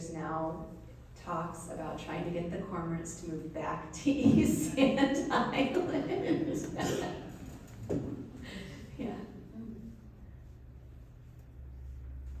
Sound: laughs

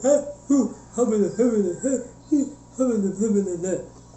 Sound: rooster adlibs in the background

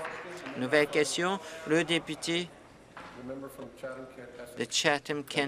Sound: applause

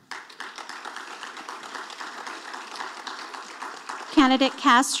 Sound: audience applauding

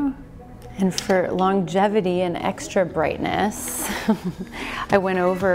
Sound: chuckles softly

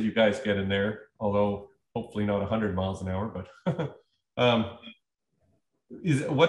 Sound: laughter

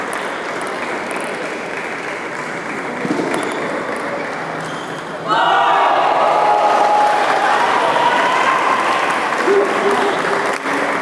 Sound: applause

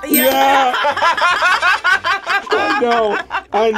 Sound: both laugh

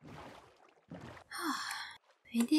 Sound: sigh

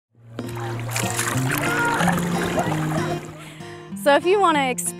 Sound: water splashing

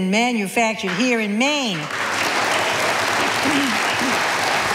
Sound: audience applauding

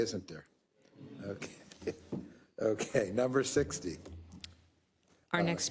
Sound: laugh

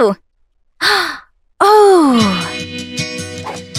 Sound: gasp

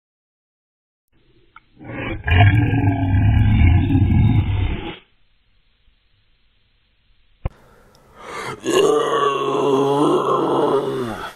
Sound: orc growl

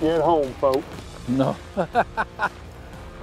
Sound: laughs

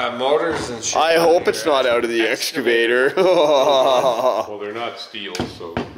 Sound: laughs

